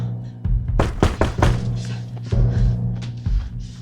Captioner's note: knocking continues